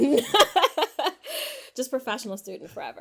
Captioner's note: laughs